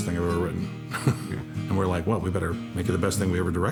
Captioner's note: chuckles